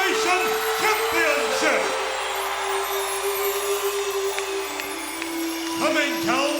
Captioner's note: audience cheers; peaceful music